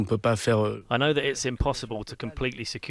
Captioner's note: through translator